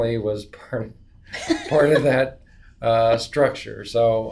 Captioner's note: laughs